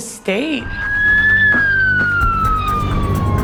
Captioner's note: siren